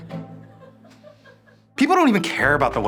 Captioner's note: crew laughing